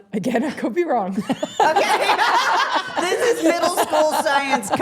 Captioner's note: everyone laughing